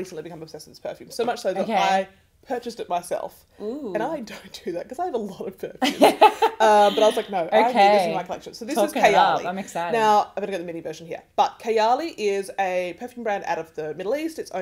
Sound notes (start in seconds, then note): 5.8 host laughs